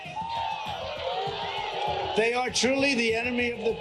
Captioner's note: audience clamoring